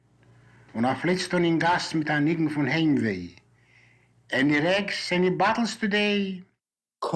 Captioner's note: in Yiddish